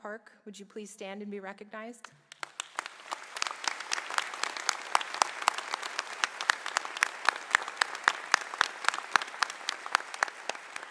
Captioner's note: applause